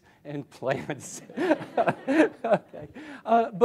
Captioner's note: laughter